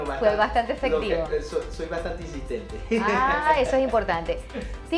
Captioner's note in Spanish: risas